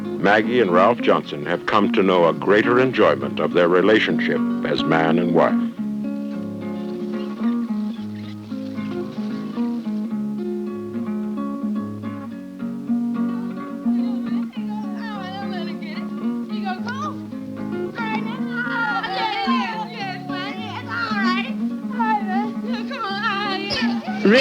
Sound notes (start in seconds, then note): 17.8 boys cheering